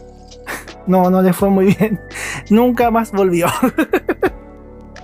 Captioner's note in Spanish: risas